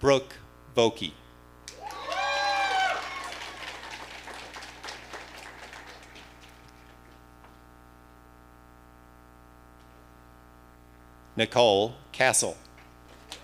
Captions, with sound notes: Brooke Vokey. (audience cheering) Nicole Castle.